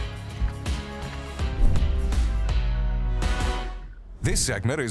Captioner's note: screen whooshing